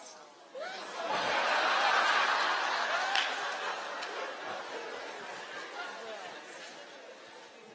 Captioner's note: laughter